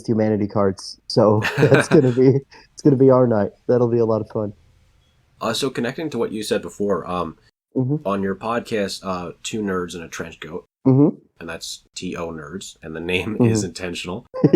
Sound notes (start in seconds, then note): 1.4 laughs; 14.3 laughs